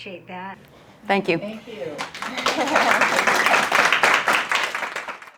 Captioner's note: clapping